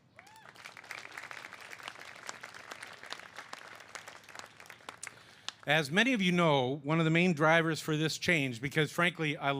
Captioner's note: cheers and applause